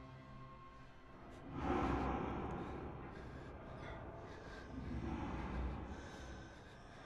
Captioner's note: soft eerie music; Sammy breathing heavily